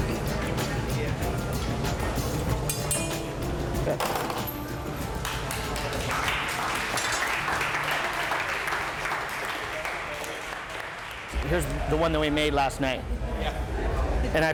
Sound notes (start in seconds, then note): 2.6 tools clinking; 5.1 clapping